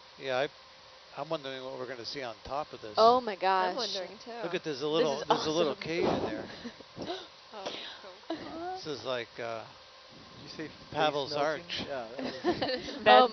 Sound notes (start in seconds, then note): 7.6 crew continues to marvel enthusiastically; 12.2 everyone laughs